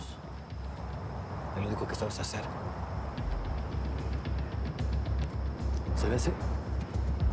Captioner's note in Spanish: ruido de auto que se acerca